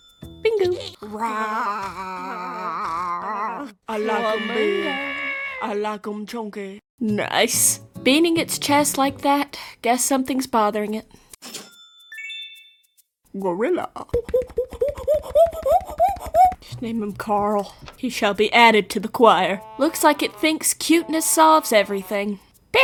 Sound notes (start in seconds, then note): 1.1 animals all saying their sounds